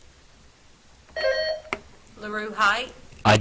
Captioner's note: buzzer trills